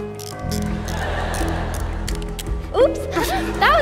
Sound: camera clicks

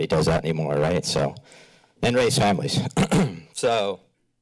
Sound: clears throat

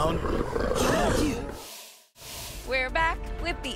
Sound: animal growls

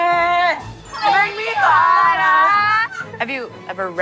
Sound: they have a good laugh

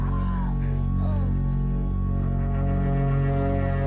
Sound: screaming, then moaning

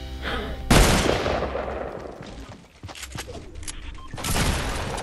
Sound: gaming noises

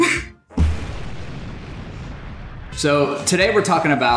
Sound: explosion blasting

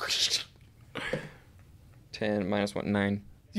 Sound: kawssssshhhhshsh sound

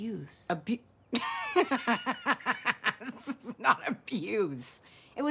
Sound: laughing

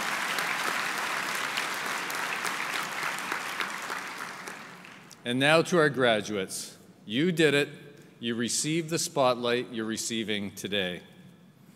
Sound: applause

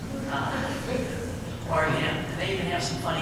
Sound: laugh

